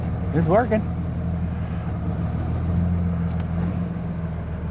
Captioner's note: car Engine Revs